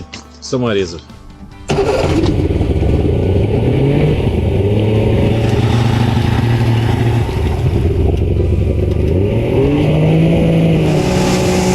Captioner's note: engine sounds